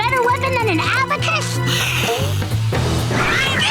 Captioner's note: hissing